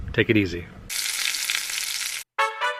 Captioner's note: sizzling